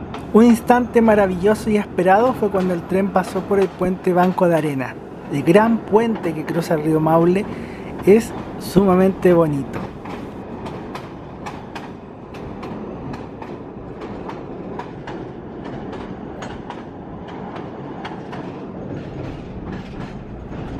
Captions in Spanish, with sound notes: un instante maravilloso y esperado fue cuando el tren pasó por el Puente Banco de Arena el gran puente que cruza el río Maule es sumamente bonito (sonido del tren cruzando el puente)